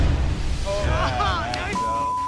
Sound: beep

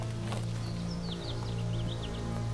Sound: footsteps

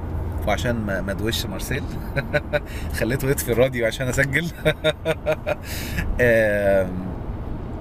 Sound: laughs!

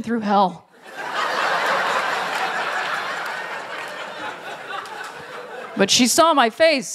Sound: laughter

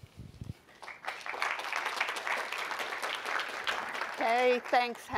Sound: applause

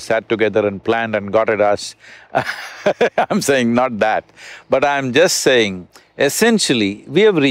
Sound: laughs

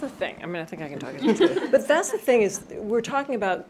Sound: chuckles

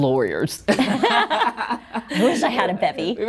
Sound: both chuckling

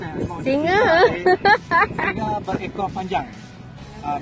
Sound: big laugh

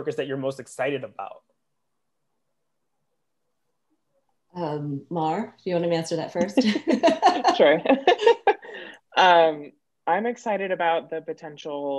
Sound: laughs

